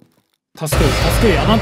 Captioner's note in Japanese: 効果音